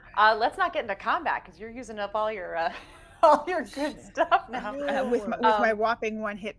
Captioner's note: laughing